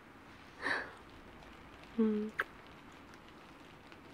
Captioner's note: kiss